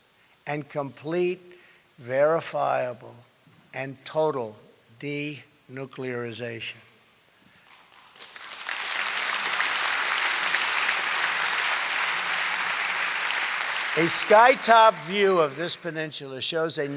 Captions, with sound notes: and complete, verifiable, and total denuclearization. (Applause) A sky-top view of this peninsula shows a